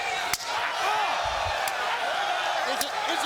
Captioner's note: crowd exclaiming; forearm slaps